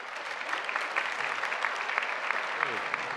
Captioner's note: applause